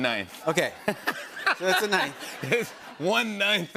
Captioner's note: laughter